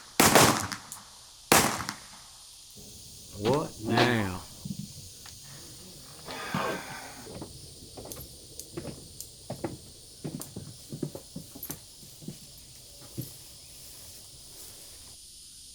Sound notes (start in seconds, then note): 5.1 sighing